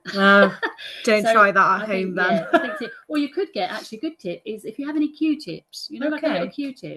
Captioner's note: laugh